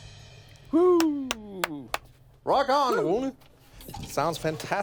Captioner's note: clapping